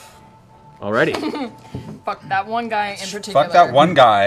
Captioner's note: laughs